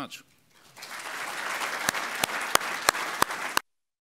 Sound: applause

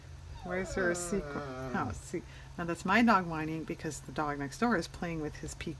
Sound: dog whines

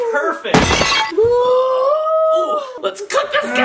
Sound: shattering sound effect

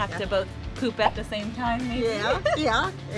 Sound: laughing

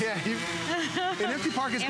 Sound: laughter

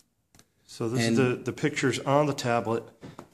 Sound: voiceover

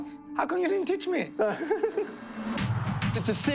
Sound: laughter

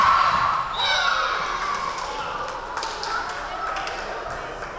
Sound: referee whistling

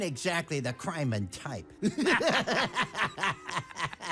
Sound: all laughing

